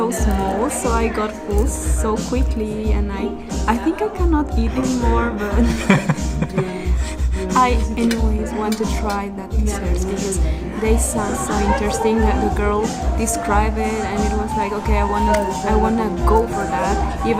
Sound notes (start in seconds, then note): 5.3 laughs